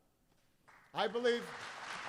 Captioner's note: applause